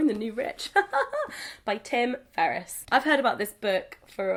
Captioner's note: laughs